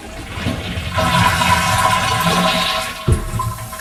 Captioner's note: water splashing